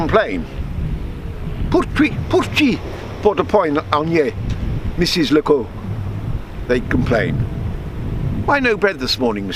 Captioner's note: aurignaise dialect